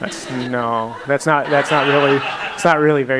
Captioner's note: laughs